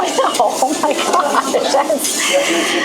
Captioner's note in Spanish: risas